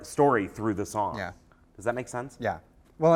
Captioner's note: voiceover